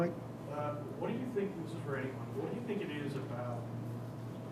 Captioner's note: speaking off microphone